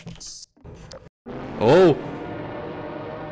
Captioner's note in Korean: 메디팩 소리; 기차 경적 소리